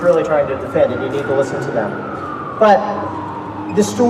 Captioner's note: police siren